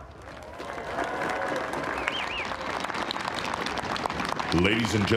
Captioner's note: applause